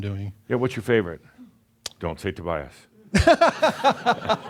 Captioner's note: laughs